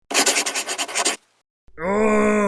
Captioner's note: frustrated sigh